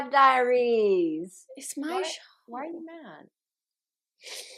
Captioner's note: exasperated